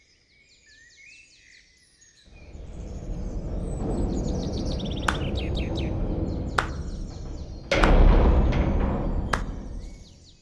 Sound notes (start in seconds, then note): none